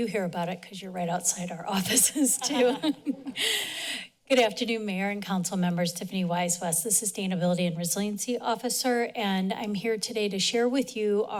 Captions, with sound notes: You hear about it because you're right outside our offices too. [chuckles] Good afternoon, Mayor and Council Members. Tiffany Wise West, the Sustainability and Resiliency Officer. And I'm here today to share with you